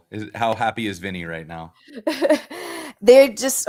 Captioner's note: laughter